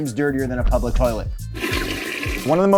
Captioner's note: toilet flushing